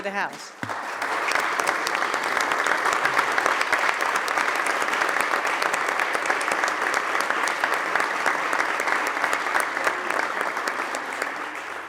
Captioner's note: applause